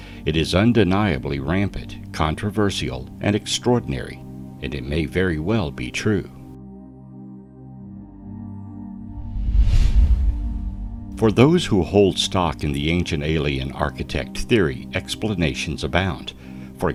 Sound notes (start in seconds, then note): 7.2 air whooshing; 7.2 placid music continues